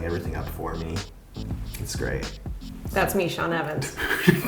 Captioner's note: weird laugh